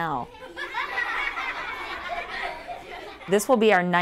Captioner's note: laughter